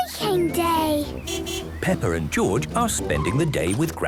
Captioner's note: beeping